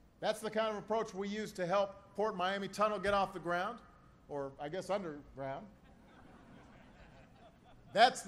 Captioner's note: laughter